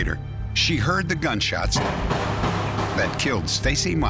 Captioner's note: gunshots